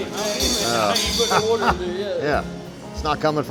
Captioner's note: workers chatting